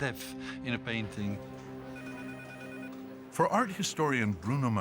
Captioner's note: phone ringing